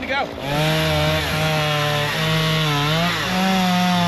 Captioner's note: saw whirring